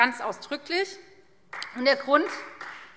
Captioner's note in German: Beifall Freie Demokraten